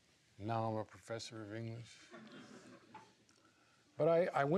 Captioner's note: laughs